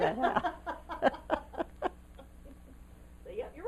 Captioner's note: laughter